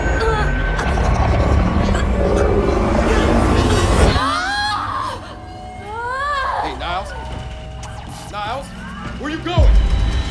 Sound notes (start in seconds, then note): 0.8 growling; 4.1 screaming